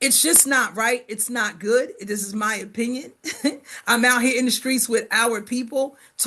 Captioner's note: chuckles